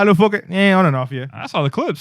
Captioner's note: speaking Spanish